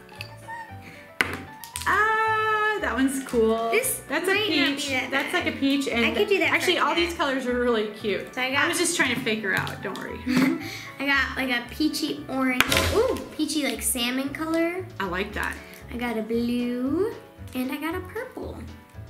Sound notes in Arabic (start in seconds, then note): 0.4 صرخات; 10.2 يضحك